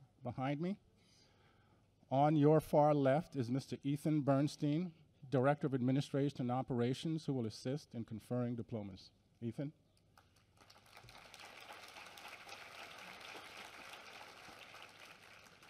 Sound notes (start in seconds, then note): 10.2 applause